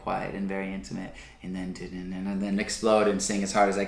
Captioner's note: vocalizes